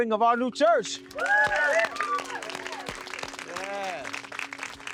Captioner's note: group cheering